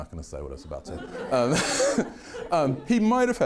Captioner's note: everyone laughing